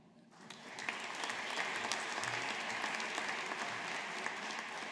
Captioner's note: audience applauding